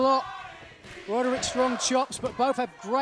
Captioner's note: fans chanting